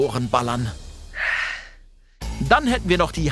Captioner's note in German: Seufzen